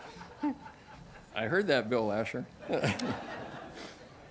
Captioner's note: audience laughs